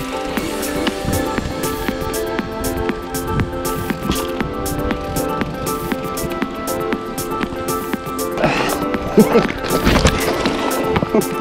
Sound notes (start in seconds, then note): 0.5 music picks up; 8.3 laughs